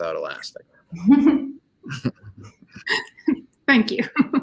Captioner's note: all chuckles